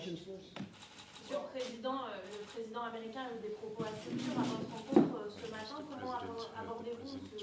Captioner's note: speaks French